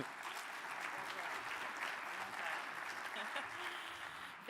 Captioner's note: audience applauding